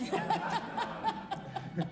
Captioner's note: crowd laughs